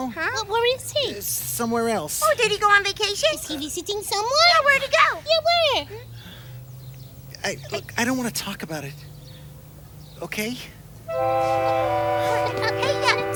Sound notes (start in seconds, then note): 6.2 sighing